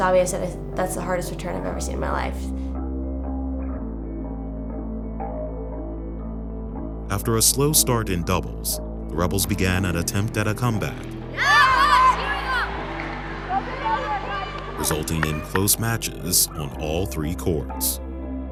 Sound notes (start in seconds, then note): 11.3 cheering